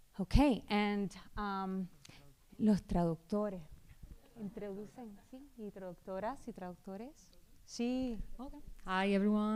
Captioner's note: speaking spanish